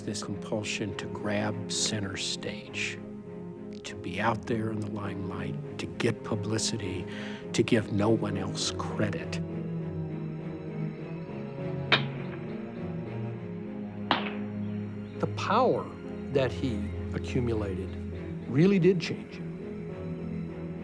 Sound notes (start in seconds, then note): 11.7 gunshots